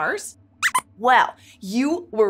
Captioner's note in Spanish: Squeaks chirría